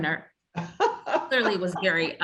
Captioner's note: laughs